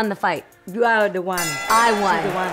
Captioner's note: bells ding